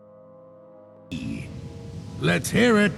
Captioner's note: pirate noise?